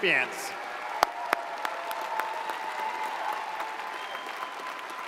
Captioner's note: audience cheers and applauds